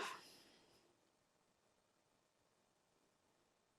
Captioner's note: sighing